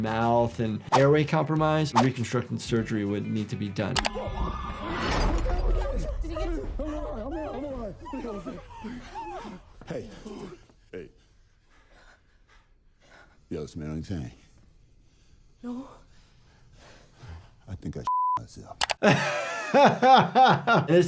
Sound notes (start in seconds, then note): 8.7 group gasps; 19.0 doctor laughs